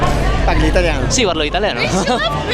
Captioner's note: Italian